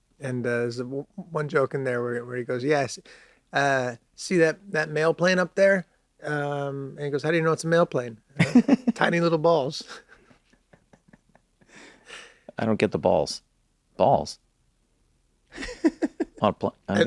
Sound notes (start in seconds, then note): 9.8 laughs; 15.5 laughs